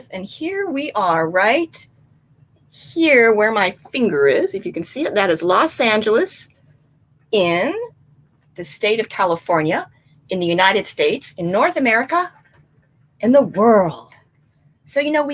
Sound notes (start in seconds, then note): none